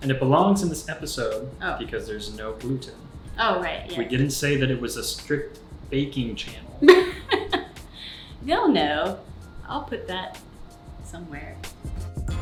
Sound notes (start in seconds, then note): 6.8 laughs